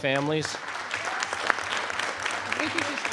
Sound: audience applauding

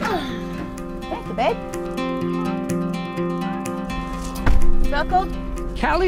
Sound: child groaning

